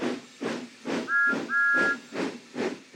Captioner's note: toot toot